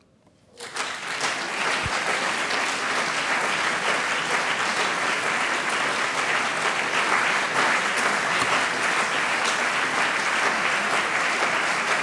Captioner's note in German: Anhaltender Beifall CDU und BÜNDNIS 90/DIE GRÜNEN